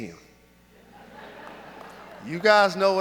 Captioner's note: audience laughs